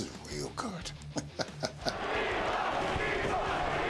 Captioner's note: laugh